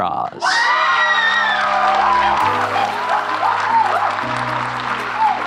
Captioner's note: audience clapping and cheering